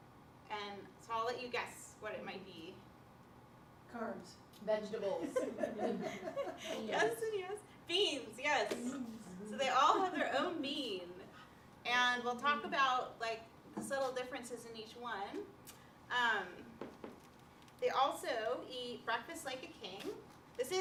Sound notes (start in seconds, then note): 5.2 laughter